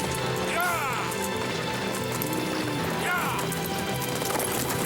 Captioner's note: man wailing